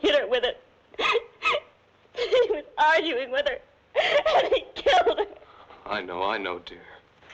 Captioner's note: sobs